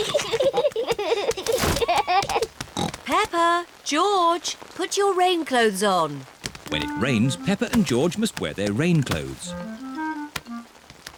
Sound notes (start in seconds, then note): 0.0 both giggling; 2.8 oinks